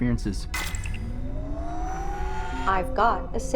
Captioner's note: computer clicks and whirs